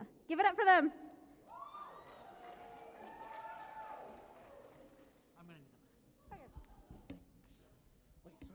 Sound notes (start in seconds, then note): 1.4 cheering